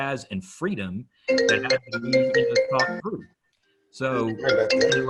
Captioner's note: phone chimes